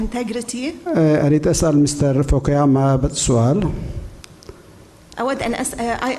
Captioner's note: speaking in foreign language